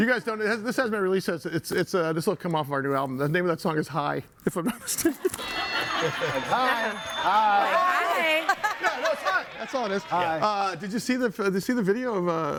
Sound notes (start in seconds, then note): 5.0 audience laughing